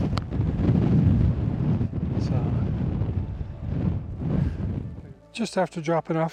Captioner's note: wind Noise